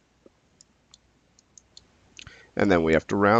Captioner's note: mouse clicking